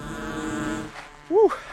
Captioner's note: drone buzzing